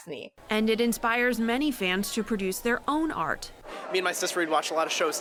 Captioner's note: voice-over